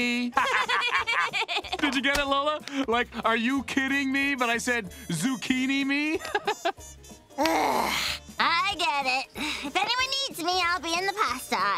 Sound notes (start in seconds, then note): 0.3 both laughing; 6.1 laughing; 7.4 groaning